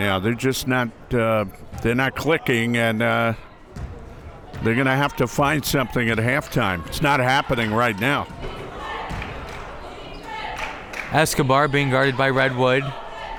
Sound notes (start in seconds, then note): 9.1 crowd members chanting